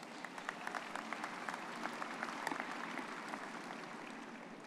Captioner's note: audience clapping